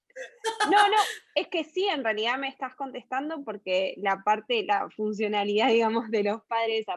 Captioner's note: laughs